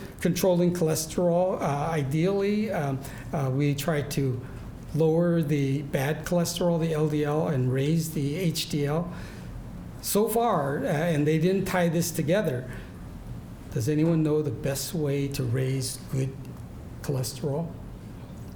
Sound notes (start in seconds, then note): none